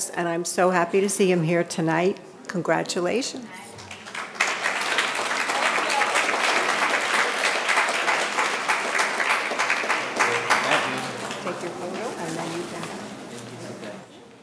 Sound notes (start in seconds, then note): 4.3 audience applauding